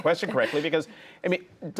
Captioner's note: laughter